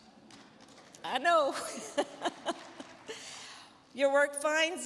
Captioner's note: chuckling; crowd clapping